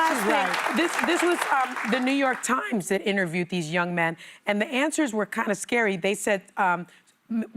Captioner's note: applause